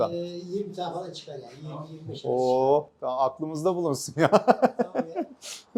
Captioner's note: laughs